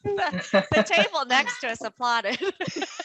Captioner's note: laughter